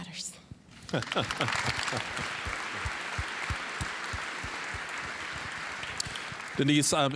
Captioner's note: applause